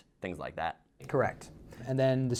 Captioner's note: voiceover